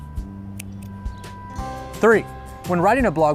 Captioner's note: scissors clipping